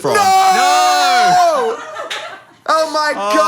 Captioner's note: everyone laughs